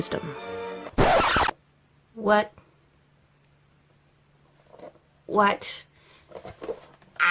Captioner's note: record scratch noise, interrupting the background music